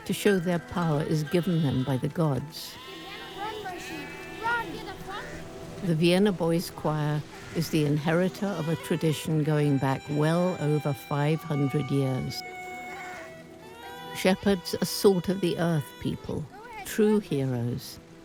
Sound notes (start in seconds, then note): 2.9 German spoken audio